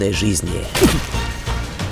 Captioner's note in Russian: звук попадания